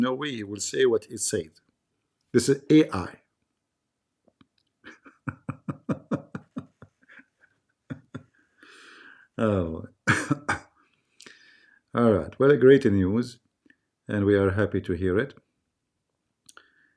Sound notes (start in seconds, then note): 4.8 Ketawa